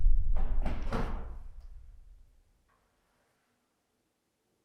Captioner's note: door bangs; door clicks